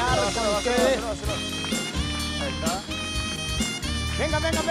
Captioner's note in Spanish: Aplausos